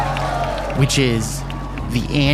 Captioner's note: cheering